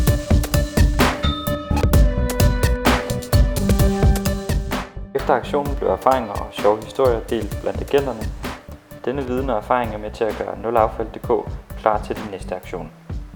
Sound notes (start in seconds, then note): 1.2 ding